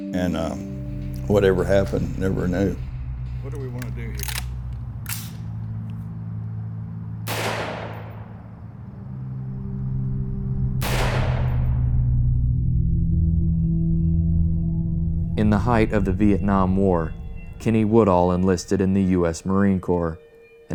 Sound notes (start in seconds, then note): 4.0 M16 Rifle COCKING; 7.2 M16 rifle BLAST #1; 10.8 M16 rifle BLAST #2